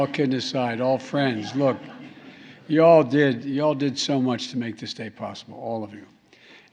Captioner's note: laughter